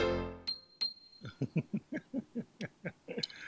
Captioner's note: piano notes playing; laughing